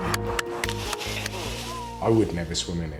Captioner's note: onlookers cheering; water splashes